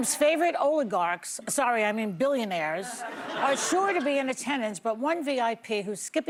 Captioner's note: laughter